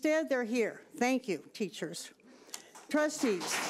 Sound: audience applauding

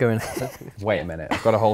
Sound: laughing

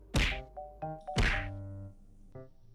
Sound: smack

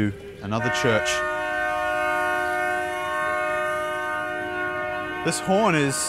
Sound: ship's horn

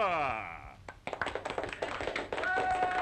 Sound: applause

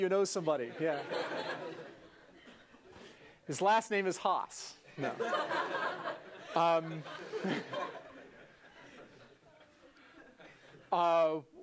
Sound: laugh

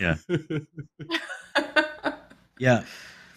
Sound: laughs; laughter

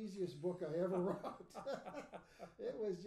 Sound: laughing

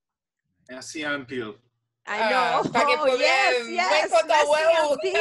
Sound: speaks in foreign language

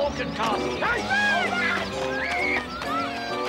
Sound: children yelling

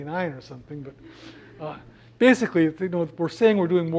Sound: laugh

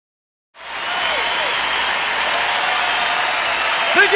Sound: cheering

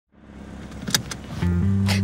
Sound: sounds of seat belt buckling

